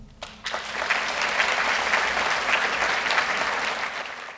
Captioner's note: applause